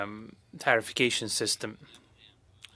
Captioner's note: speaking French